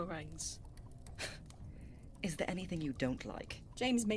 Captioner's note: Remus huffs